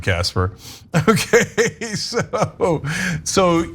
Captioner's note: laugh